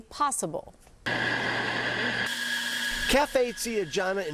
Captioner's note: coffee grinding